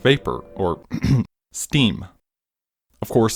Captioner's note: clears throat